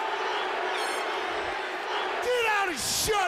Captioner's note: crowd chatter